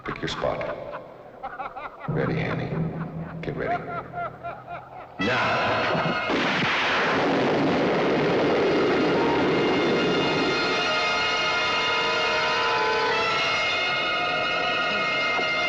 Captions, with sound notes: Pick your spot. Ready, Hannie? Get ready. Now! (gun fires) (dramatic suspense music)